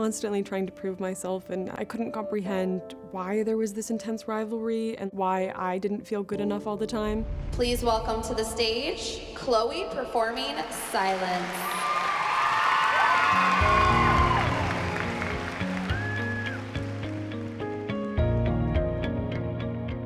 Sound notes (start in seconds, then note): 10.7 cheering; 13.1 mellow instrumental music playing